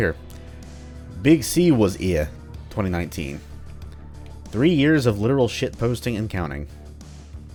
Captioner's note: horrible attempt at a British accent